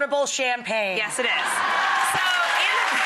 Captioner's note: audience laughing